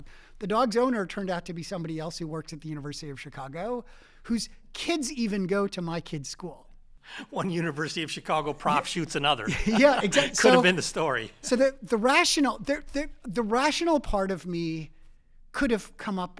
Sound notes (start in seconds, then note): 8.6 laugh